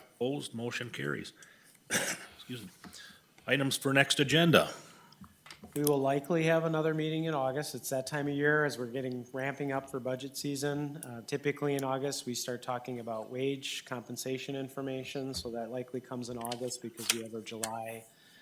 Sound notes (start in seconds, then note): 1.8 coughs